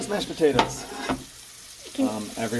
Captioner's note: water sounds